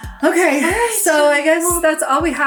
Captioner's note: sighs